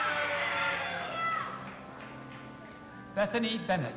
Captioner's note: audience applauding and cheering